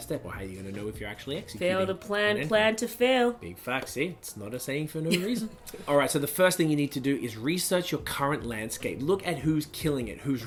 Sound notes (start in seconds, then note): 5.0 laughs